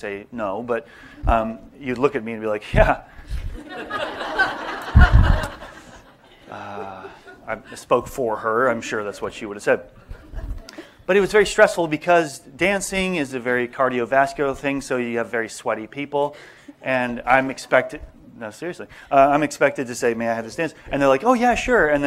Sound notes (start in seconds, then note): 6.0 laughter